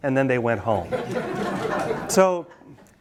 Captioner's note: students laugh